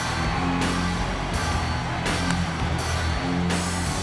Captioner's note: audience cheers